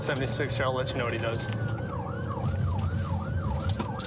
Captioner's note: siren blaring